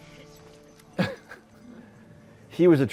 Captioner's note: chuckles